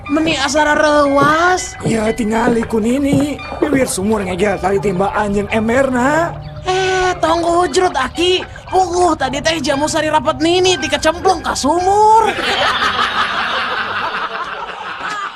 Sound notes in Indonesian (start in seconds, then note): 6.6 berteriak; 12.2 tertawa